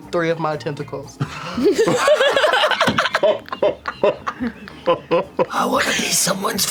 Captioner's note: laughter